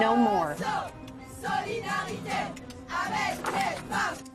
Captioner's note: chanting